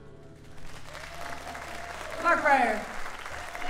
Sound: audience cheers and applauds

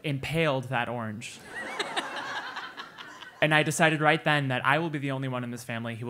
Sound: laugh

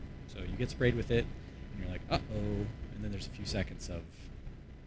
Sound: none

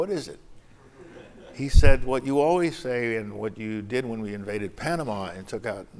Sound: laughter

